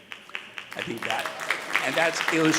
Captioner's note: audience applauding